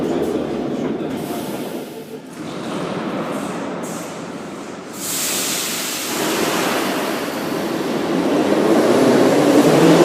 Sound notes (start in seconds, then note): 2.3 closing doors